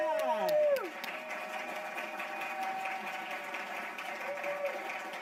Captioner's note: audience applauding